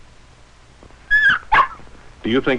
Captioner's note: Spot whining